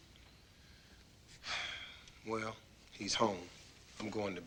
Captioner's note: sighs